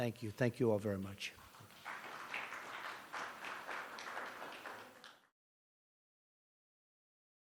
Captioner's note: applause